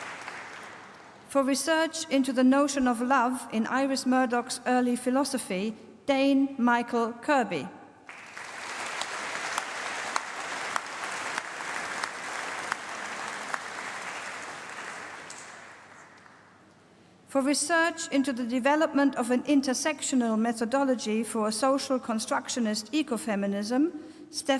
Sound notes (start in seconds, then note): 8.0 applause